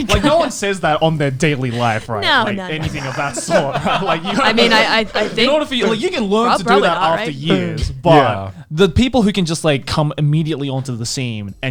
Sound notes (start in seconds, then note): 4.4 laughs